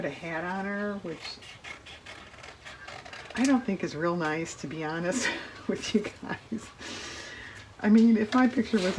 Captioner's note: laughs